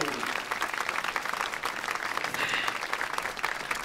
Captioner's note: crowd clapping